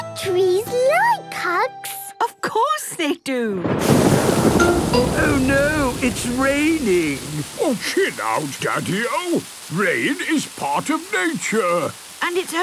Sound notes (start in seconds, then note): 3.6 thunder booming